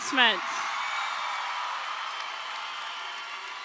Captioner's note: crowd cheering